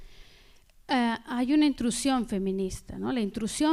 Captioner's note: speaking spanish